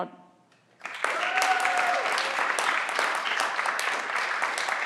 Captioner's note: everyone claps